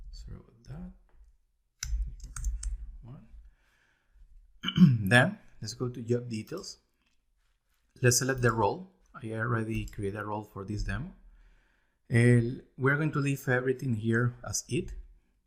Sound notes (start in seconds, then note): 2.8 mumbles